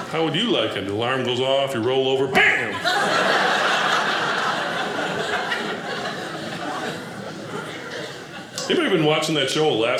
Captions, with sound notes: How would you like it? The alarm goes off. You roll over, bam! (audience laughing) Anybody been watching that show